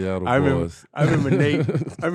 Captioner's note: laughing